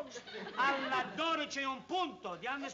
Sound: speaking italian

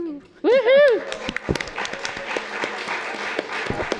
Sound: applause

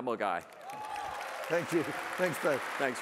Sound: audience applauds and cheers

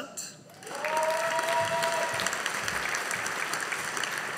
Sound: audience applauding

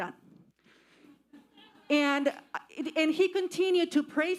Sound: audience laughing

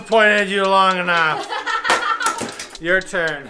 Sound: laughing

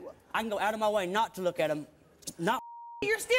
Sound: beeping

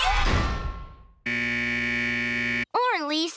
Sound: buzzing

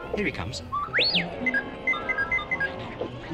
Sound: beep Blip

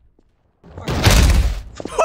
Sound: thud; laughing and screaming

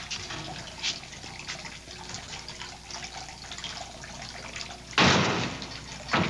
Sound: water gurgling; door thudding

